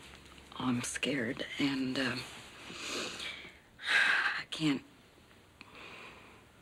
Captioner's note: exhales